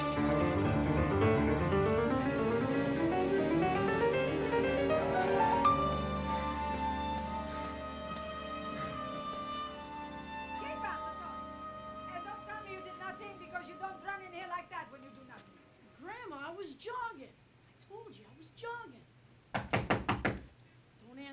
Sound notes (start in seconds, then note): 11.0 italian